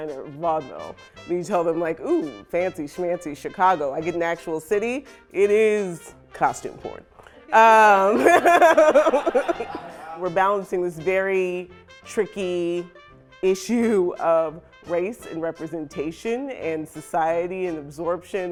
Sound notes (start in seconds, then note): 7.9 laughter